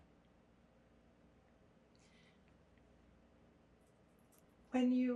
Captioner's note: pauses 4 seconds